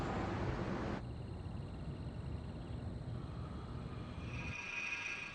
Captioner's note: crickets stridulate; suspense music